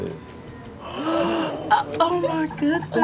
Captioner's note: gasps